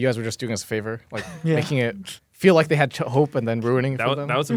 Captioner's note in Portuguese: risos